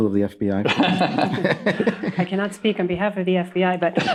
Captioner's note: all laugh